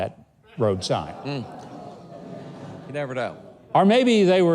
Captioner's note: audience laughs